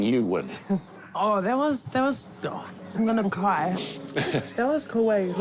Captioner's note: sniffs